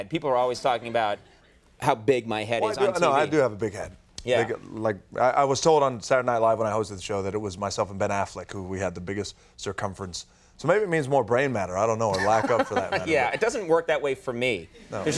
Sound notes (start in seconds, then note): 12.2 Conan scoffs